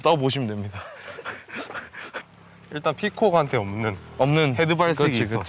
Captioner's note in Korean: 웃음